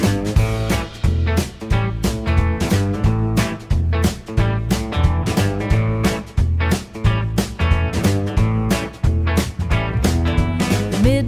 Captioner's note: vroom vroom